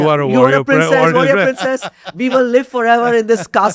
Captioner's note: laughs